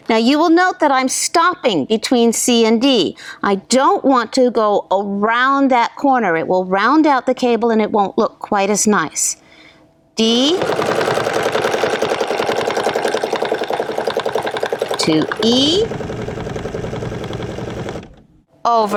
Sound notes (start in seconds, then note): 10.4 machine whirring